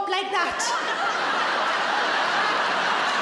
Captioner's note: laughing